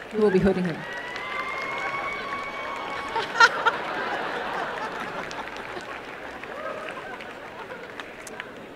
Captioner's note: applause